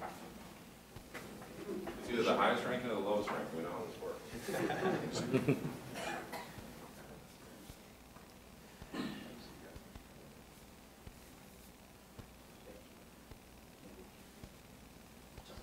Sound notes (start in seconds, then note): 4.3 laughing